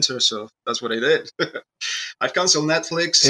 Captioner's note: laughs